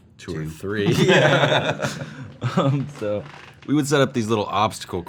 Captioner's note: laughing